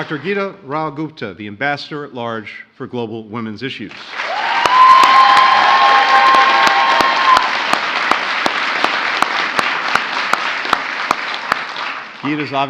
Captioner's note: applause; applause